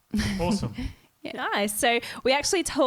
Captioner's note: giggling